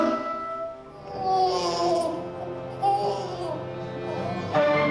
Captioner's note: baby crying